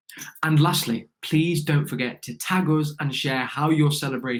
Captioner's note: none